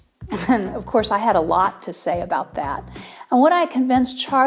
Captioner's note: laughs